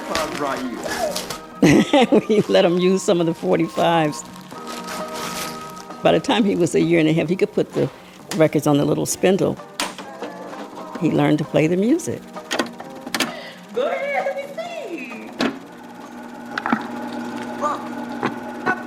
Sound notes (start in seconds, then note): 0.2 voice From old recording; 3.7 paper rustling; 14.4 voice from old recording